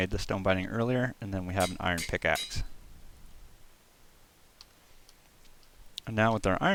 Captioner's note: hammering on forge sounds